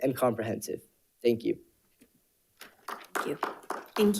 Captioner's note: panelists applauding